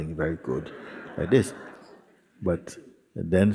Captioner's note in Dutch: gelach